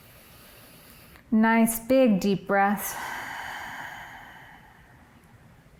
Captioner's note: inhales; exhales